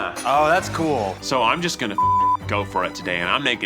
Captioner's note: beeps